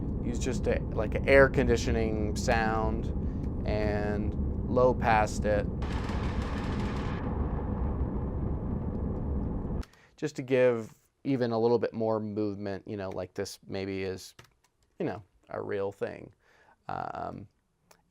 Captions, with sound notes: Used just a air conditioning sound, and low-passed it. (changes pitch of air conditioning sound) Just to give, even, a little bit more movement, you know, like this, maybe, is a real thing.